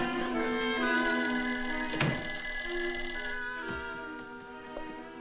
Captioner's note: phone ringing